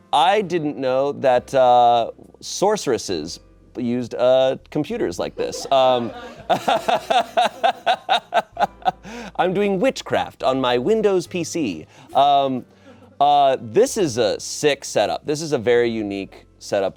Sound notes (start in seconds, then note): 5.4 audience laughing